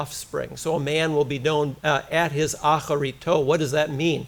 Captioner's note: foreign language